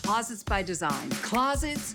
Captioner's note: finger snap